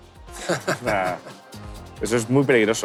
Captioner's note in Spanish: Risas